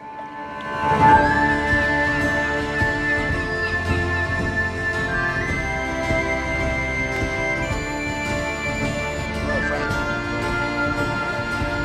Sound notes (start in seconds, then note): 0.6 irish music; 3.6 seagulls cawing